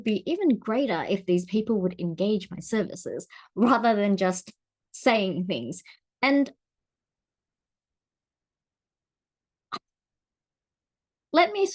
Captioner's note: awkward pause